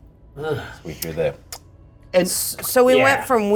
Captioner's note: clicks